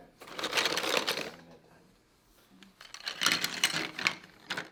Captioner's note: spoons clatter